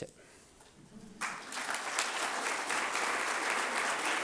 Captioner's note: applause